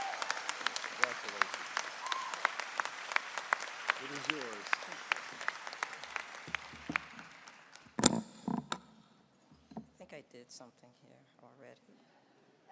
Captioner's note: cheering and applause